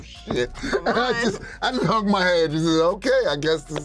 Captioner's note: chuckling